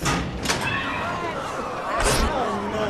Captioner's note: people exclaiming